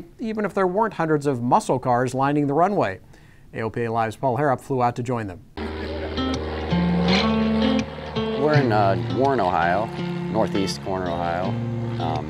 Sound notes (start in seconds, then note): 5.6 plane engine revving; 5.6 pleasant music